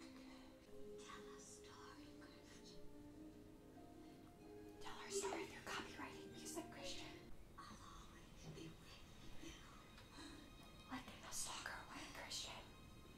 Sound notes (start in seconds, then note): 3.0 whispering; 9.8 whispering